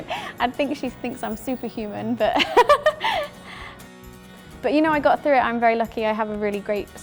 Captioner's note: laughs